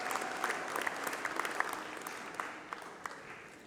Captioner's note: applause